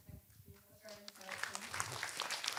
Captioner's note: audience applause